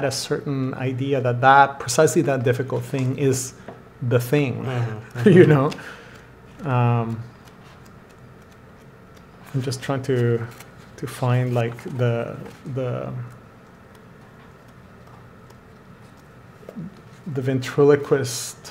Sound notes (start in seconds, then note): 13.0 flipping pages